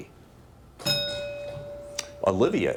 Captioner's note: bell dings